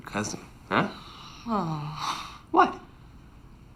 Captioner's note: groans